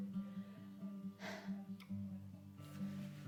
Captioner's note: sigh